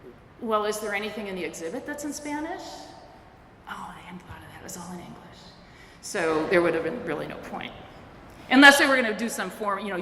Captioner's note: whispers